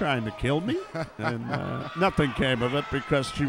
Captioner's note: laughs